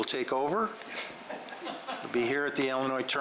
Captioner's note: laughing